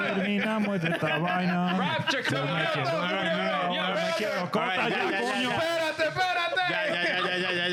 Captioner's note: speaking In Foreign Language